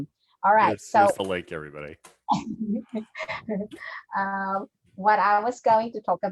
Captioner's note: chuckles